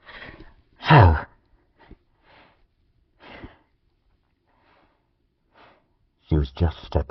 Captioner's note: breathing